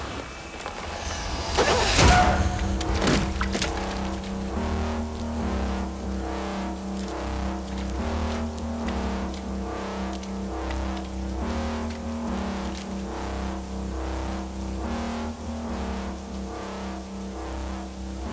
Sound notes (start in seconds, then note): 1.7 grunting